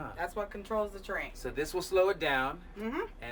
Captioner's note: none